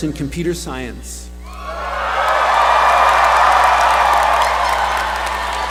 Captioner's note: cheering